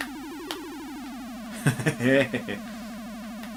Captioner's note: relieved laughter